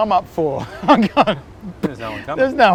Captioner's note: laughs